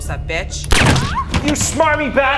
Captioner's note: gun pings